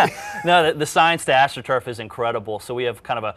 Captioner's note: both laugh